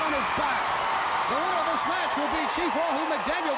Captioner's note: crowd cheering